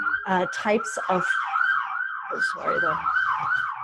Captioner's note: siren wailing